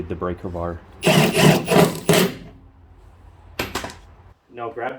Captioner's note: drilling sounds